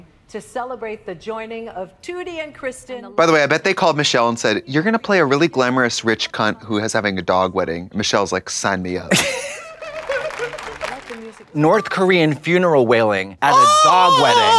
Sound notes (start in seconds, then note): 9.1 Mavis sobbing